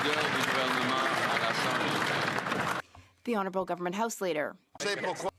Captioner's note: some Applause